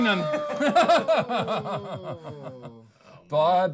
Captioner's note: laughing